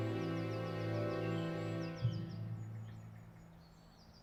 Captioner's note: birds singing